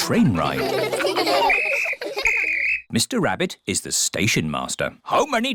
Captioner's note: blows whistle